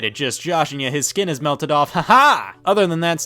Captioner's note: man laughs